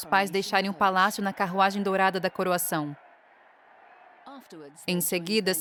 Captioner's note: crowd cheering